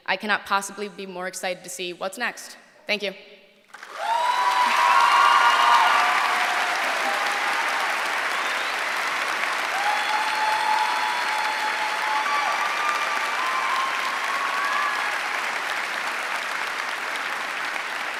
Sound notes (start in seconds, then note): 3.7 applause